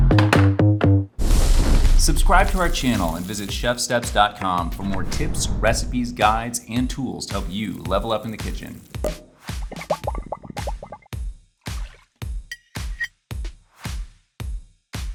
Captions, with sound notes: (fire sizzles) Subscribe to our channel and visit ChefSteps.com for more tips, recipes, guides, and tools to help you level up in the kitchen. (cork pops) (bubbles pop)